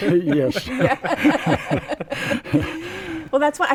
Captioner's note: laughter